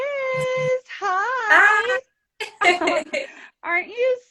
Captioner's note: both laughing